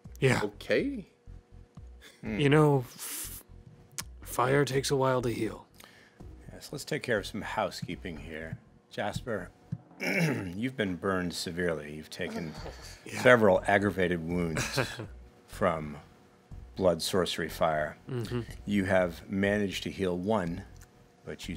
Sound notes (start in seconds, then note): 14.5 chuckles